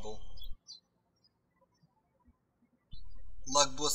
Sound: birds chirping

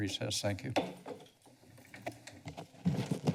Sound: pounds gavel

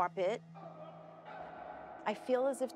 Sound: bickering

